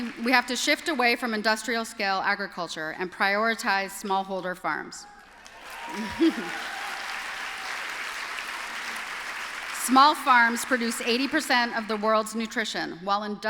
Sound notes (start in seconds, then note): 5.1 applause